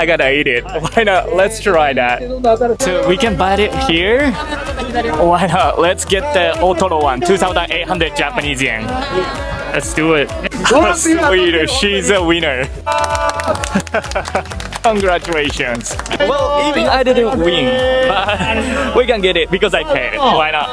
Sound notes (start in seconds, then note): 12.8 applause; 12.9 chuckles